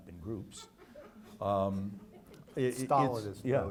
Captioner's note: audience laughs